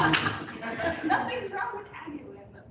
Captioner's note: chuckling